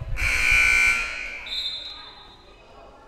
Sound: loud buzzer blaring; whistle blowing

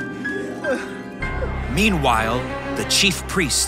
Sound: Peter sobs

